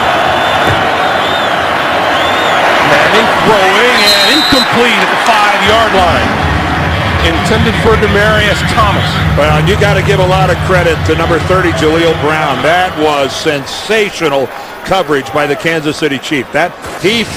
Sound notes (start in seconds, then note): 1.9 crowd noise